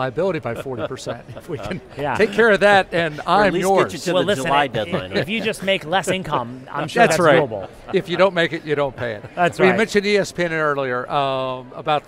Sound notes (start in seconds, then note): 0.5 chuckles; 1.2 laughs; 4.0 laughs; 6.3 laughing; 9.0 chuckles; 9.2 laughs